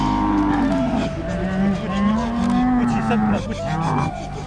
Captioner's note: camels grunting